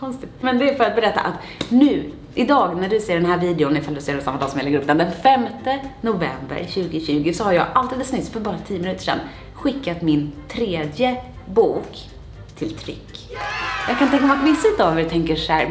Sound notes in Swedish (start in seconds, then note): 13.3 jubel